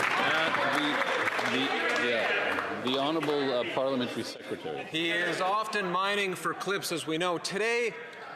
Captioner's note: some Applause